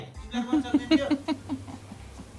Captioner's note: Jhyape laughs